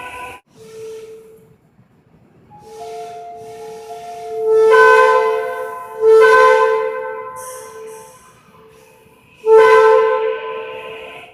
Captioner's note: air Horn; air Horn